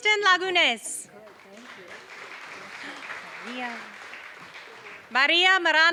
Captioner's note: applause